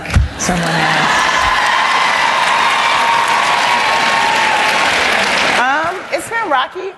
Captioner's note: cheering and Applause